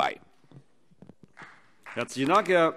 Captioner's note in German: Vereinzelter Beifall CDU